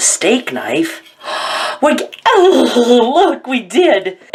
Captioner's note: gasps